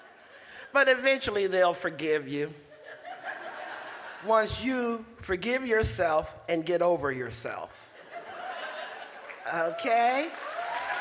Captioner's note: applause